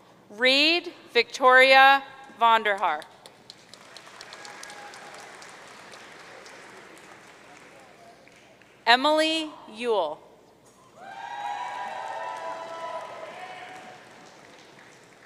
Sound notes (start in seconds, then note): 3.2 audience applauding; 11.0 audience cheering